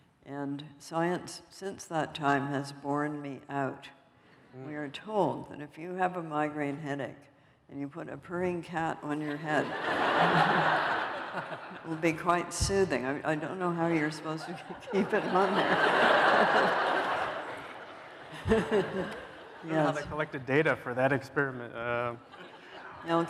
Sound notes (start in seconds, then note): 9.3 laughter